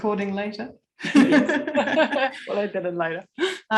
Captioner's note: laughter